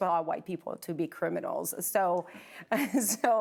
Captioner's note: both laughing